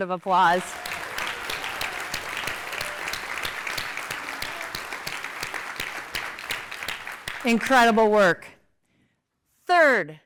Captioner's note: applause